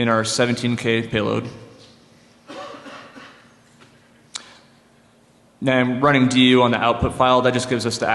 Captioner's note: coughing